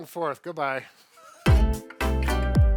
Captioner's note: laughs; upbeat music